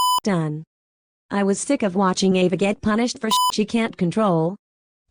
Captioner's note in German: Piep